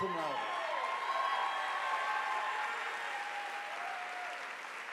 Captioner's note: audience applauding